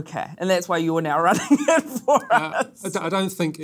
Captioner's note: laughs